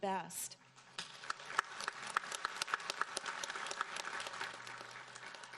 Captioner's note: audience applauding